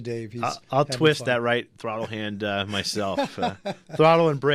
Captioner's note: laughs